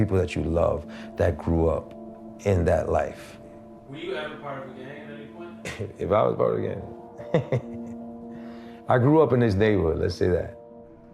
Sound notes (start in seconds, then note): 7.1 chuckles